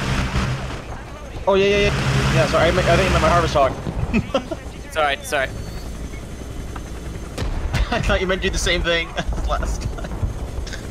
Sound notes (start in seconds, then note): 5.7 bombs exploding next to the heli; 9.0 slight laugh